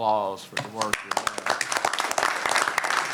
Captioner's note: applause